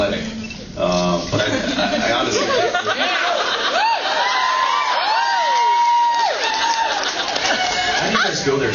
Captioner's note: laughs and cheers